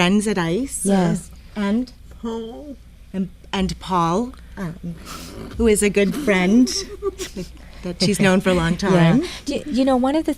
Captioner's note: giggles